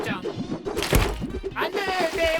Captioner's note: fishbowl dropping